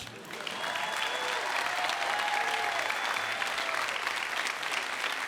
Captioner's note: audience applauds and cheers